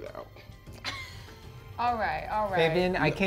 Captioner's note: chuckles